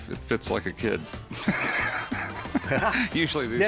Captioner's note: laughs